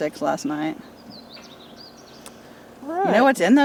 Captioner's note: birds chirping